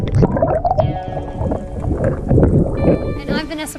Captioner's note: sounds of water bubbles